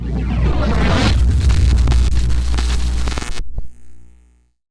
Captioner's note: electricity sounds